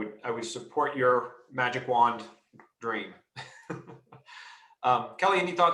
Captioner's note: laughs